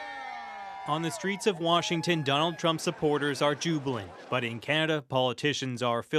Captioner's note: cheers and Applause